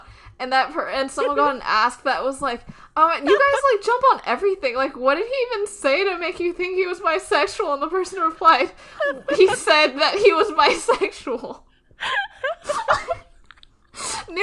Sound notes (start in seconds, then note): 8.8 laughing; 12.3 both laughing